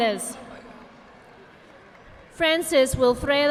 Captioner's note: audience clapping